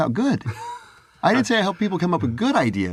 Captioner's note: laugh